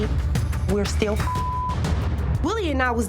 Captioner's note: beep